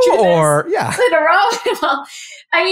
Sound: laugh

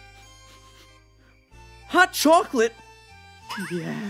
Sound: sniff sniff

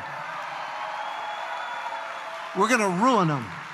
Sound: congregation applauds

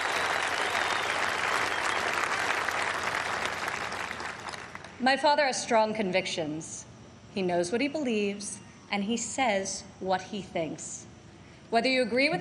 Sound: applause

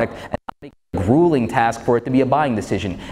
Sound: interruption in mic

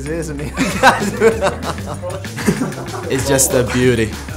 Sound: both laugh

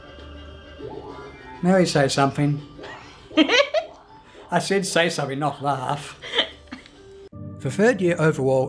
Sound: laughs

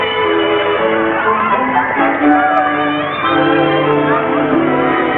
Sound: children shouting

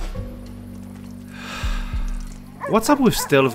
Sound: sigh

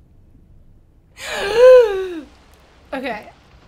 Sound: gasps for air

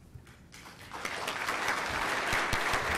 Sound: applause

